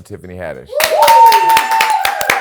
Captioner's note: cheering